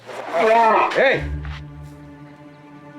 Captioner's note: grunts